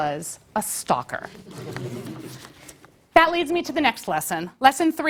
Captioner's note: laugh